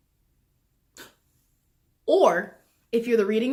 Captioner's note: inhales IDEA